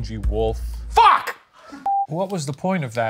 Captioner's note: film beeping